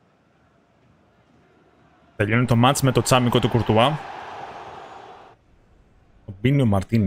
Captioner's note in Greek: χειροκρότημα